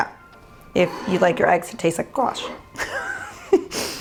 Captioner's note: laughs